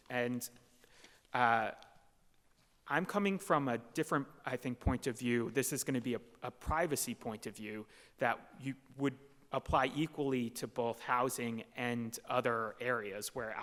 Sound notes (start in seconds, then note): none